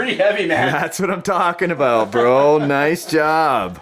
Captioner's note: voiceover